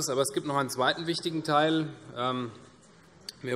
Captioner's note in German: none